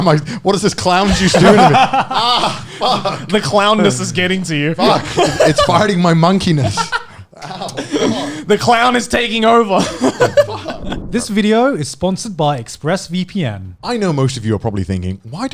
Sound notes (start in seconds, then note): 2.0 all laughing; 6.7 laughing